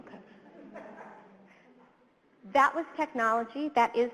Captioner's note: audience chuckles